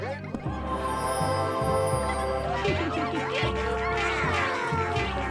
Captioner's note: squirrel squealing